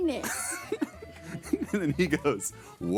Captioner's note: laughing